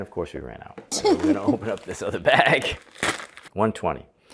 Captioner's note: chuckles